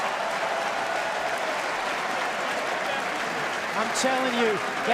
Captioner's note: crowd cheering